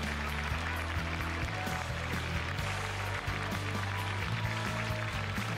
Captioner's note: cheers and applause